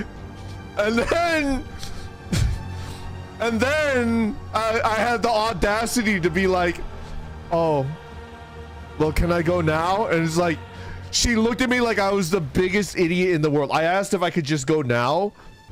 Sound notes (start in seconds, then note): 2.2 chuckles